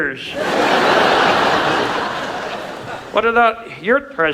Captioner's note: audience laughs